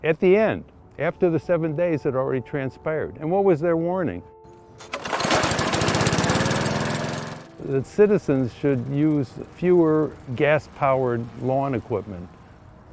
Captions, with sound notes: At the end. After the seven days had already transpired. And what was their warning? (motor revving) That citizens should use fewer gas powered lawn equipment.